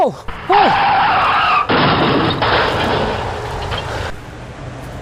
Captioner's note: crashing Sound